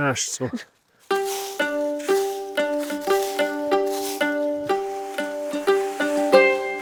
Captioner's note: leaves rustling; energetic music